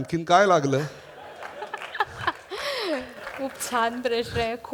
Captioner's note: laughter & applause